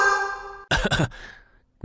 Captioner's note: cough cough